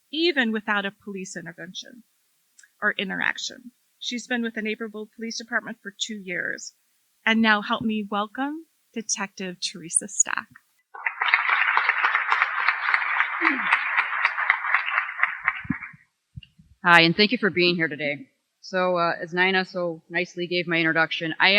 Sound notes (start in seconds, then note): 10.9 applause